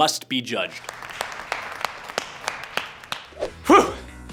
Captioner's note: clapping